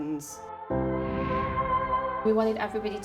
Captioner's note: woosh